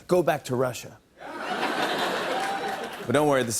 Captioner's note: laughter